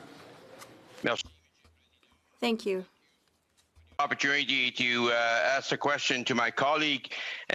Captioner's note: speaking french